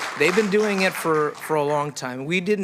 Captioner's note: applause